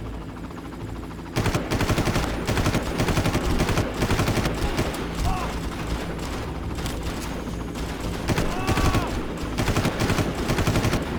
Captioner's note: helicopter whirring